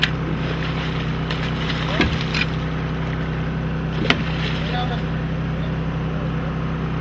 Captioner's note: water splashing